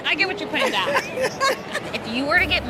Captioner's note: woman laughing